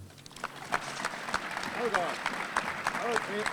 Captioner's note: audience applauding